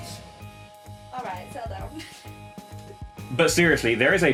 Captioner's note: laughing